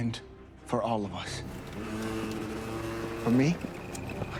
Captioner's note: engines revving